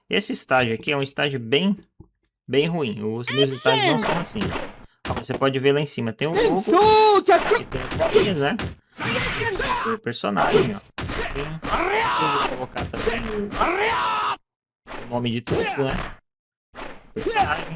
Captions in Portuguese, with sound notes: Esse estágio aqui é um estágio bem ruim. Os meus estágios não são assim. Você pode ver lá em cima, tem o nome do personagem, ó. Colocaram [grito] o nome de tudo, né?